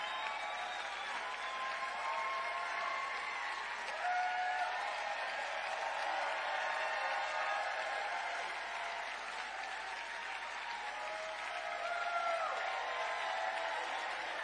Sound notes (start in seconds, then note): 0.0 cheering